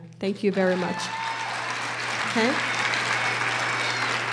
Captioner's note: applause